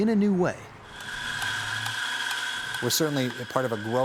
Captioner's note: coffee being ground